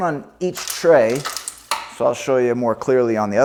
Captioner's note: security cable clatters